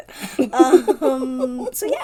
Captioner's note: laughs